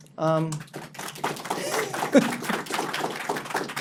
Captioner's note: applause